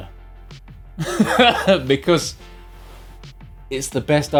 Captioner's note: laughs